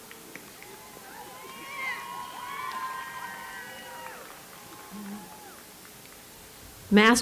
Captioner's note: applause